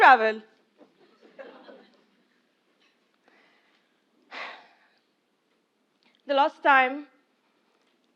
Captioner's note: laugh